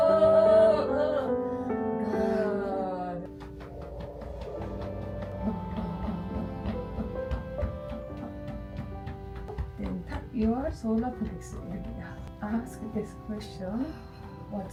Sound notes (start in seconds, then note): 0.0 humming; 3.3 hands thudding; 5.5 groaning; 6.6 hands thudding